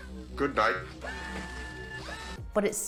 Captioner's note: robot motor running